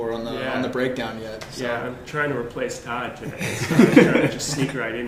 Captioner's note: laughter